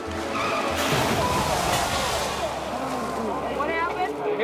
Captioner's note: drivers groaning; snowmobiles crashing; people gushing